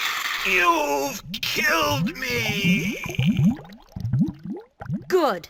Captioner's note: attack crackles; bubbling sound effect